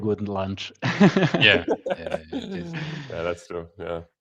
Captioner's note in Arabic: ضحك